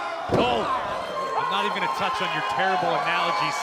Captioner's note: crowd chatter